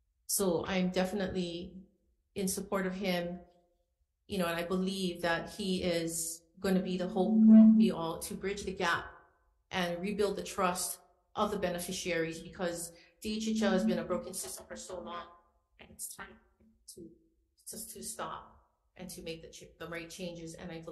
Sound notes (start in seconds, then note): 7.1 mic feedback